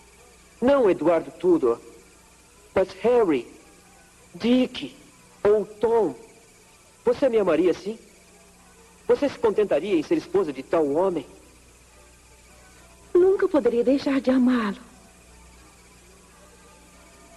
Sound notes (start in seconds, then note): none